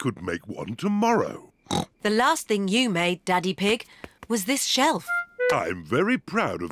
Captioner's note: snorts